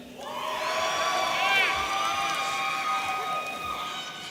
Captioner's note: audience cheering